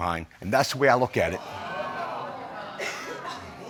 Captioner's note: audience exclaims